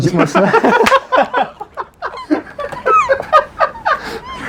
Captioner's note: laughter